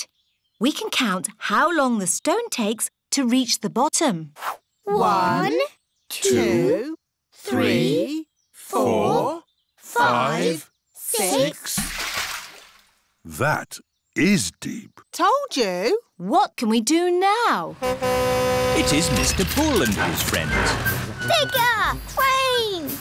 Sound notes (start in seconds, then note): 11.6 splash; 17.7 horn honks